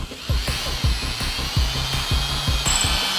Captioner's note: drilling